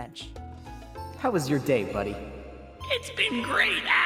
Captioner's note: with a kind of annoying telepathy sound filter